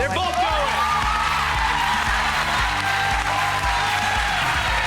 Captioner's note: clapping